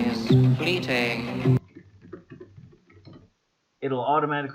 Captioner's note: typing noises